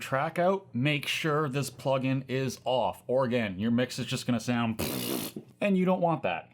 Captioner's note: tongue out sounds